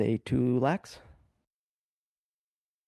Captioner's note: speaking in French